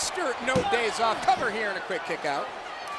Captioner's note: referee pounding mat